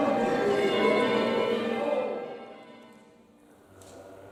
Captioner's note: church bells ring